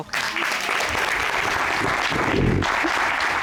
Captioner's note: applause